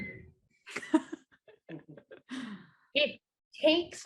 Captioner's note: laughs